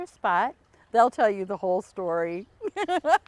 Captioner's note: laughs